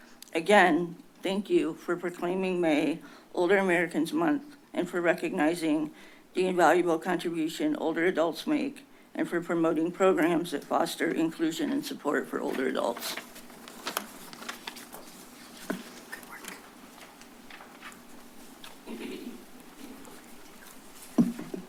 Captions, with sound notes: Again, thank you for proclaiming May Older Americans Month and for recognizing the invaluable contribution older adults make and for promoting programs that foster inclusion and support for older adults. [paper rustles] - Good work. [rustles]